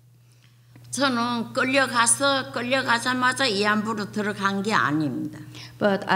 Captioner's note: speaking foreign language